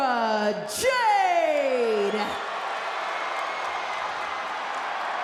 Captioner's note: crowd cheers